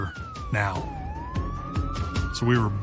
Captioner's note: sirens wailing